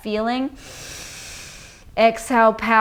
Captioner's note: inhales deeply